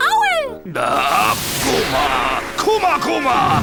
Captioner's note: chanting